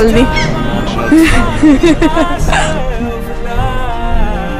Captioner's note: swearing